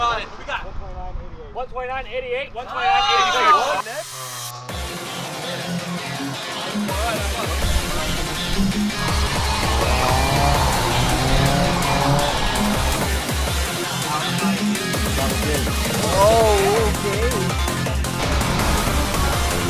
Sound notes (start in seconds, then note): 2.6 crowd cheering; 3.5 high intensity electronic music